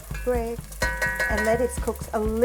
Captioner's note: utensils clanging